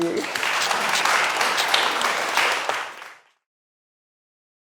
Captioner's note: audience applauds